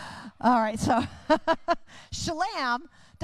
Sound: chuckles

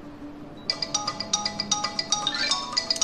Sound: incoming call

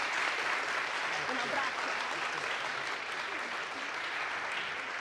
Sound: audience applauds; audience cheers; speaks Italian

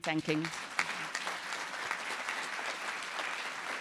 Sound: applause

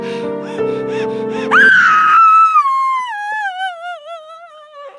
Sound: more Screams

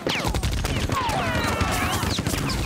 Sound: screaming

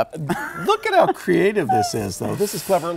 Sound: laughing

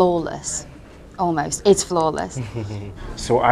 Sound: chuckles

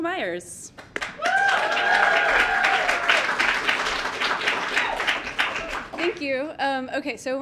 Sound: audience clapping and cheering

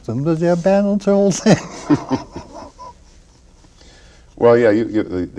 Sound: chuckles

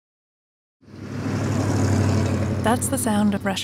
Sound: traffic noise

